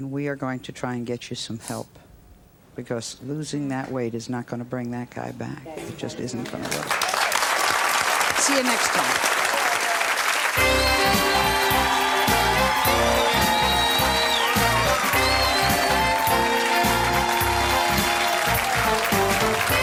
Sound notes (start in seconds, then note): 7.5 cheers and applause; 10.8 applause; 14.0 upbeat music